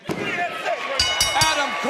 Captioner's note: bell ringing